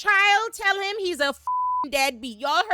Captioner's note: beep